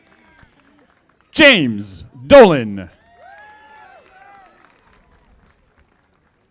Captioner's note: audience applauding; audience applauding